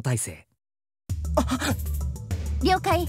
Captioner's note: gasp